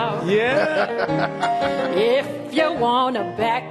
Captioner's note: chuckles